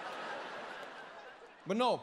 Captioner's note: crowd laughing